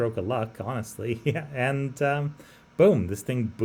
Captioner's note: laughs